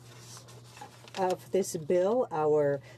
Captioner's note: speaking in french